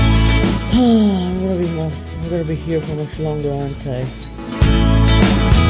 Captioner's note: sigh